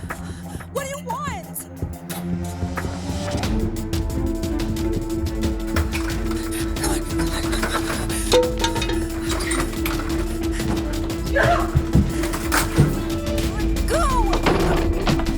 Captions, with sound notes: What do you want? (dramatic music) (Hope grunting) Let go!